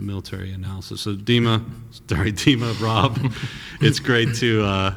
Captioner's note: chuckles